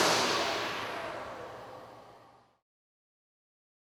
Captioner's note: propellors stop spinning and slow to a halt